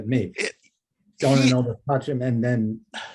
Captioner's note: speaking in foreign language